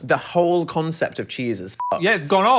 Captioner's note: beep